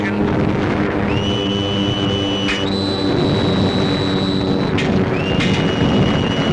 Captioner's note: whistling